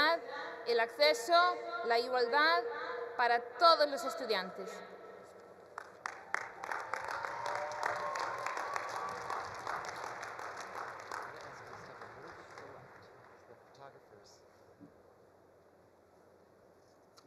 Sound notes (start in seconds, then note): 5.7 all applauding; 6.3 all cheering